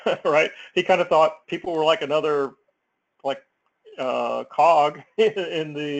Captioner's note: laugh